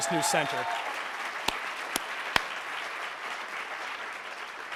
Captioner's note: applauding